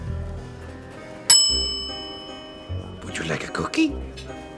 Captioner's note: bell dings